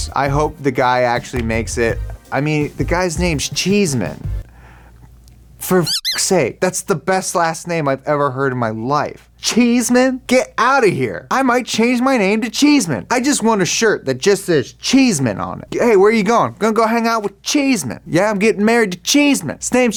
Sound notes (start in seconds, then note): 5.8 beep